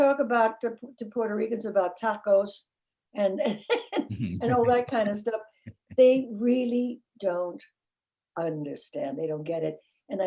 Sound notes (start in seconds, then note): 4.1 laughing